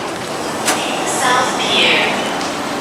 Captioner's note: in-train announcement plays